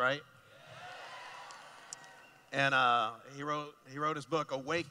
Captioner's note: cheering